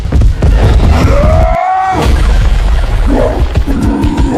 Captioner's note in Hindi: कराहने की आवाज़; चीखने की आवाज़